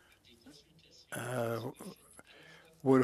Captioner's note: speaking French